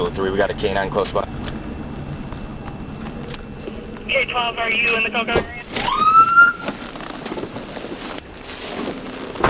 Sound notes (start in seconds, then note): 5.8 sirens blaring